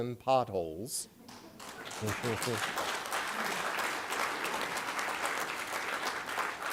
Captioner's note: applause